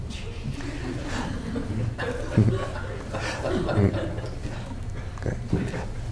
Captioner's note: laughter